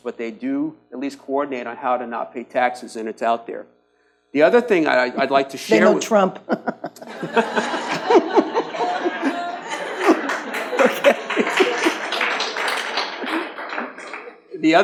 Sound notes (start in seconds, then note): 6.4 audience laughs; 12.1 audience claps